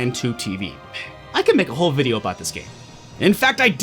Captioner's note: sigh